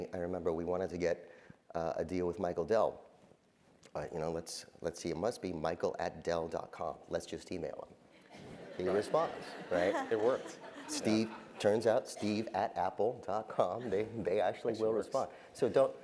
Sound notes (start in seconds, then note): 8.3 laugh